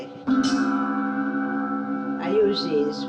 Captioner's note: gong chiming